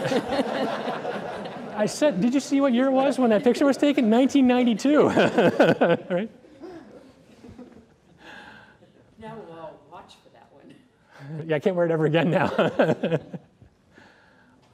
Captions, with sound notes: [LAUGHTER] I said, did you see what year it was when that picture was taken? 1992, [LAUGHTER] right? Now we'll all watch for that one. Yeah, I can't wear it ever again now.